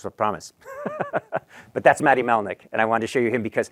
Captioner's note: laughs